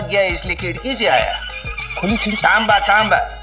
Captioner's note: Cell phone ringing